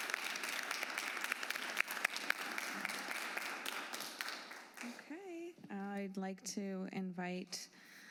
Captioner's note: applause